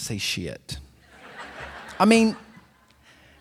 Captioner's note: laughter